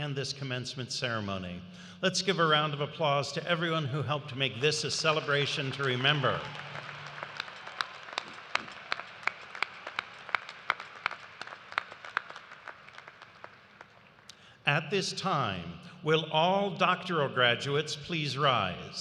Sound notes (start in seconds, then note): 8.3 cheers and applause